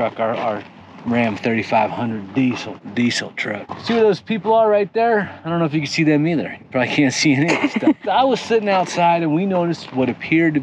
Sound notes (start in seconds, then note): 7.4 laughs